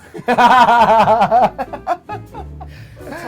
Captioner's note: laughing